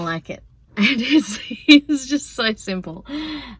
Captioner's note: laughs